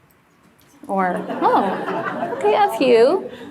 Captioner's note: audience laughs